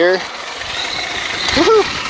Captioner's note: remote control car engine revs